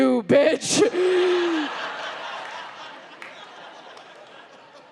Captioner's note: audience laughs